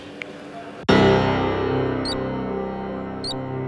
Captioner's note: click